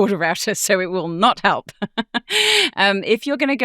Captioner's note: chuckling